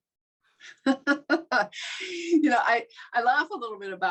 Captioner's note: laughs